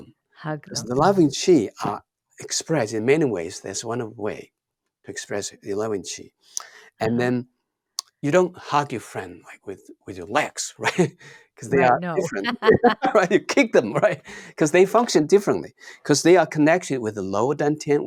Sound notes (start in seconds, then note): 11.6 laughs